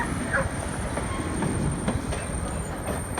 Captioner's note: dog barking